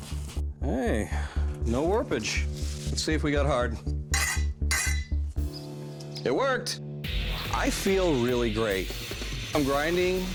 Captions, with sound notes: Hey, no warp-age. Let's see if we got hardened. [clanging] It worked. I feel really great. I'm grinding the bevels.